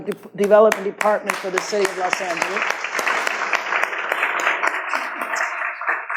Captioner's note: audience claps